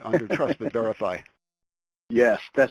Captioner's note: laughs